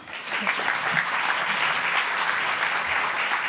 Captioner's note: applauding